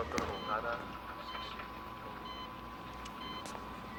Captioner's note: machine beeping